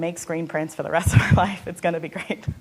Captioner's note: laughing